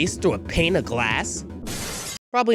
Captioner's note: glass Smash